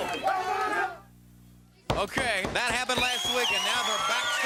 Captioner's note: crowd cheering